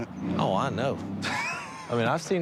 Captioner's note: guffaws